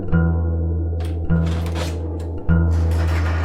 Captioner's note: door opens; shutter doors scrape